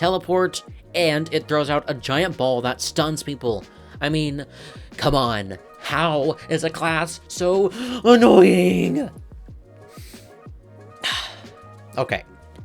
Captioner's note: deep exhale